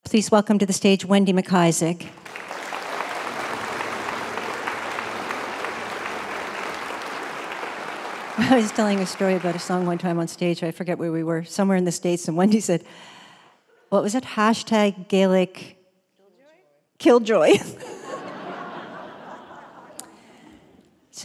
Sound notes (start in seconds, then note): 2.1 applause; 8.5 laughs; 17.6 audience Laughter; 17.8 laughs